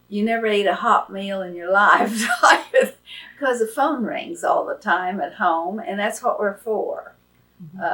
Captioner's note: laughs